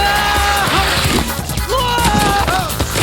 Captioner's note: screaming; crashing